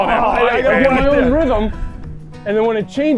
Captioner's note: everyone yells